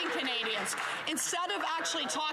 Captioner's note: some Applause